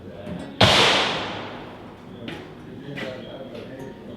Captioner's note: gunshot